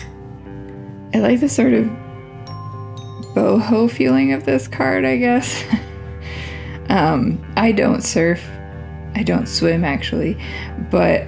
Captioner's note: laugh